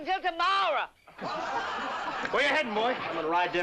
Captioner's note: laughter